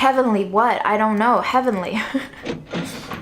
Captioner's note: laughs